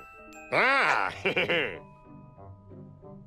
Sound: chuckles

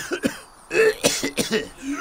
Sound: wheezes

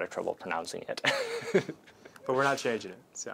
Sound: laughter

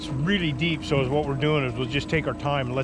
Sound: winch motor running; background chatter

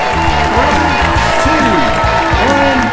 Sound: applause

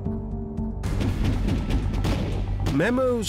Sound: gunfire

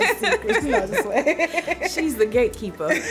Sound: both laughing

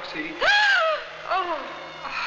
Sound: gasping

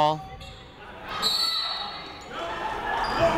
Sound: whistle tweeting

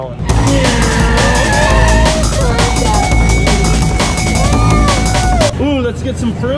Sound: exciting rock music; imitates a car

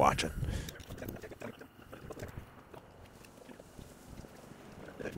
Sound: sound warping

